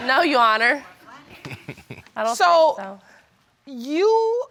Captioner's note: chuckles